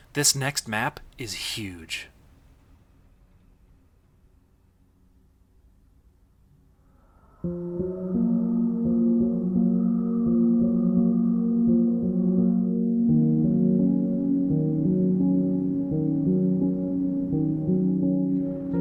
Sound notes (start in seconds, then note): 6.9 wind whistling; 7.4 calm music